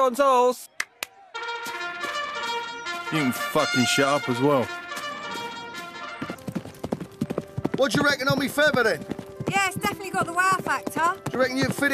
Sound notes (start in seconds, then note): 1.2 trumpets; 4.9 galloping hooves